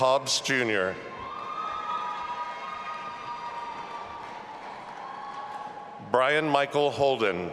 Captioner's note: audience applauding and cheering